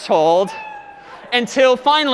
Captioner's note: meow